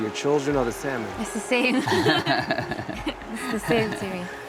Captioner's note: both laugh